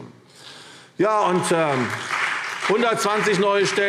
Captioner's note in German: Beifall CDU und BÜNDNIS 90/DIE GRÜNEN